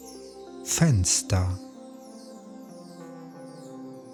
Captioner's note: german